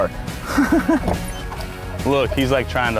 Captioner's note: laughing